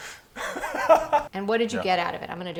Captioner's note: laughing